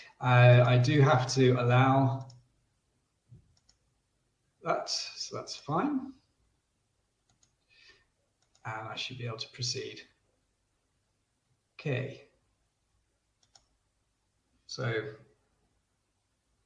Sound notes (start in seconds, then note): 13.4 mouse clicks